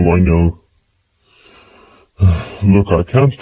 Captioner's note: sighs